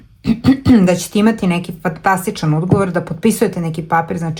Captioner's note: coughs